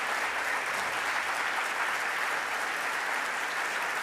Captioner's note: audience clapping